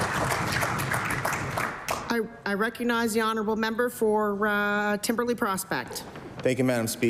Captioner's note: applause